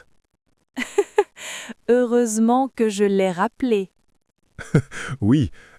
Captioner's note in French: rire; rire